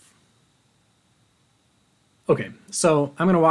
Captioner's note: 5 seconds pause